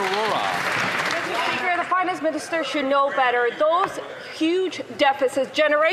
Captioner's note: some Applause